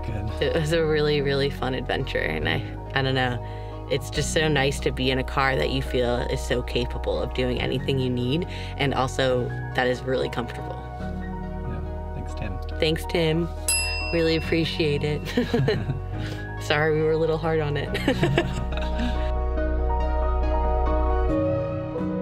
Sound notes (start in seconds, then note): 13.6 bell dings; 15.3 both laugh; 17.9 both laugh; 19.2 relaxing music